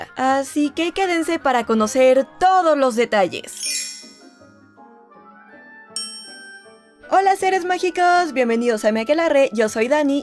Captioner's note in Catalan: campana